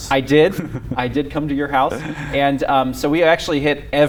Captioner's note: laughs